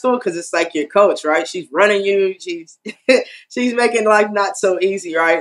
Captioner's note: laugh